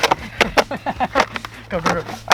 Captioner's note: laughs gleefully